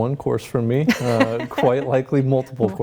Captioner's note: laughs